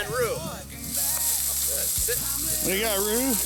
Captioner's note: grasses crunching